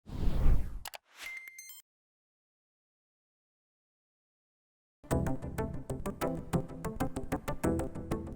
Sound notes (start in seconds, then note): 0.0 air whooshes; 0.8 button clicks; 1.2 computer beeps; 5.0 bright digital music